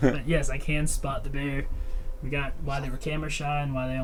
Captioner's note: Thomas laughs